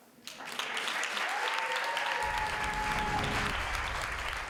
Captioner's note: audience clapping